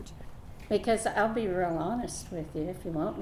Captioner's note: voiceover